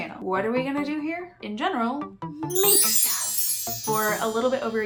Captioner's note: sparkle noises